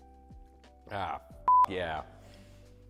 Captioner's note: beep